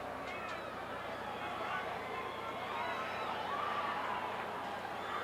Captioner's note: crowd chattering